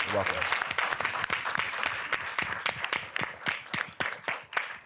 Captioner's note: applause